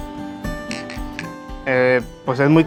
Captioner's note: glasses clink